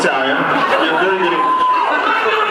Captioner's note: cheers